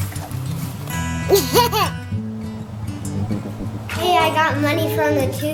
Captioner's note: laughs